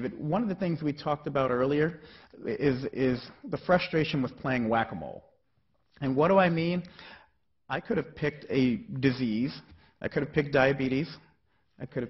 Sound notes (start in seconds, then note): none